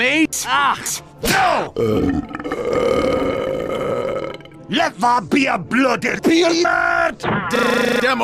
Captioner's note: burps